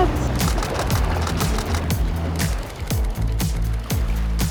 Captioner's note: camera shutters clicking